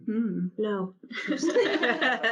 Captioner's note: panel laughs